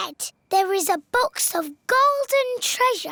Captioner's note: none